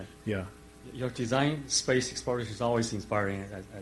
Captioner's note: voiceover